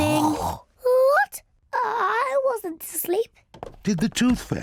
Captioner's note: snorts; stammers